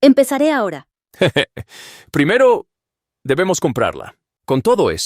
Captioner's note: jammer laughs